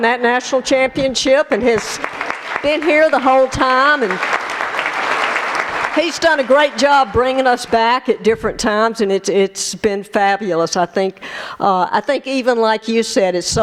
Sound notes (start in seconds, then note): 4.4 applause